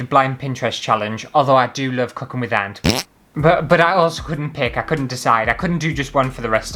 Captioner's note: fart!